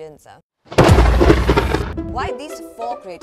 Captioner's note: thunder clap